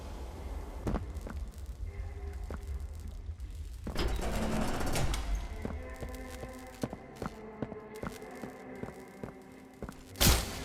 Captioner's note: footsteps